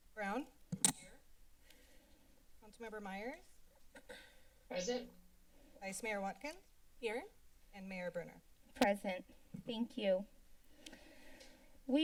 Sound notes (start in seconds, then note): 0.8 silence; 4.0 clears throat; 10.8 silence